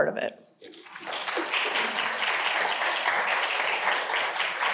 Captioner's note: audience applauding